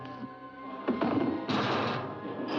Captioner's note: pry bar clangs on ground; door bangs open